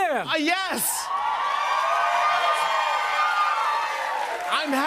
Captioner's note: cheers and applause